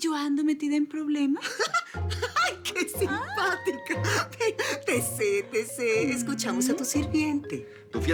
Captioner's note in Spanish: Risas